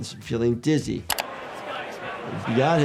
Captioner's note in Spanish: clics del ratón